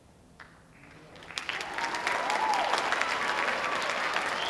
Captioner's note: audience applauding